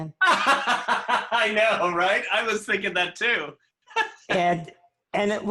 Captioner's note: laughter